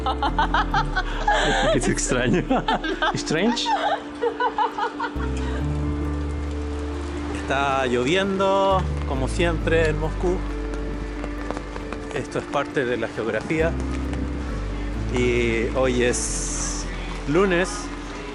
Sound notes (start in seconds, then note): 0.0 laughs